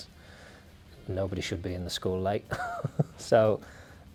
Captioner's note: laughing